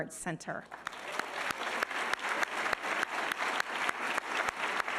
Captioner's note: all applauding